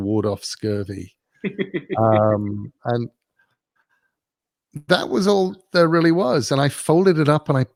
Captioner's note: laugh